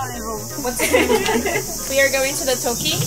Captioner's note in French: rires